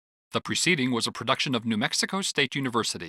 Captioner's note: voiceover